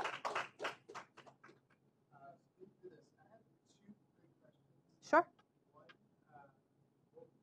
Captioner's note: applause